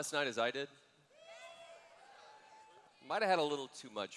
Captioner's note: cheers